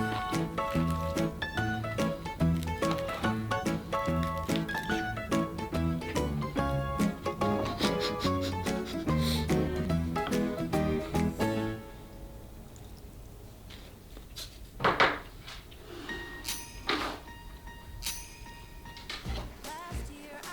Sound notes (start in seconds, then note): 3.9 SFX: Rustle; 7.3 laugh